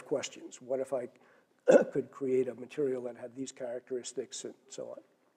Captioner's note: cough